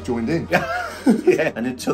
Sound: both laughing

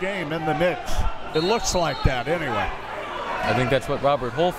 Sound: whistle tweeting

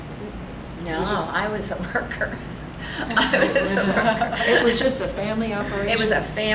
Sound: all laugh

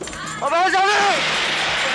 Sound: gunshot

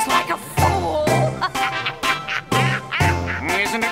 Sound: witch laughs

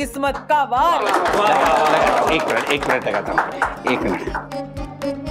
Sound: applauding and cheering

